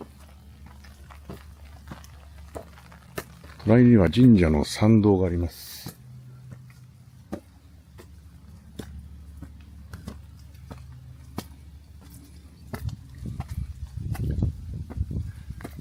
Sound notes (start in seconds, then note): 6.7 stone steps